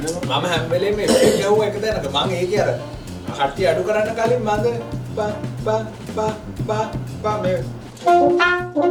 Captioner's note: humming